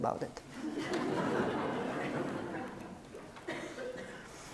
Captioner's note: audience laughs